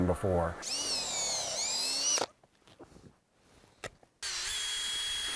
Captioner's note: drill buzzes